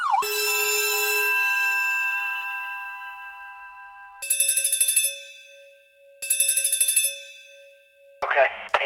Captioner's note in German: Schulklingelgeräusch